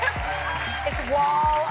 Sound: applause

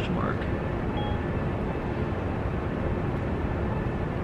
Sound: phone tone

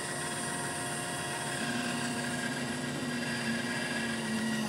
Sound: machine sound

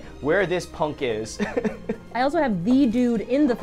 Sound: laughs

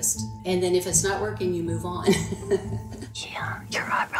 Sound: laughs

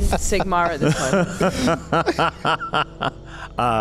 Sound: laughs

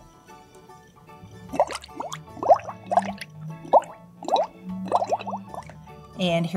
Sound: bubbling sounds

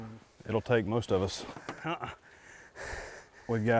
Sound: people panting

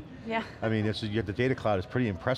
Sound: laughs

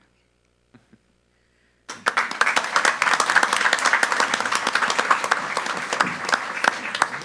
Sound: chuckles; audience applauds

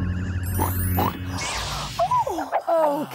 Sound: zap!; oink! Oink!

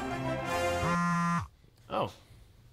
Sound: phone vibrate

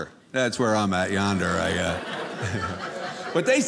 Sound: audience laughing

